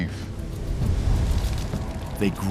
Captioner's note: fires crackling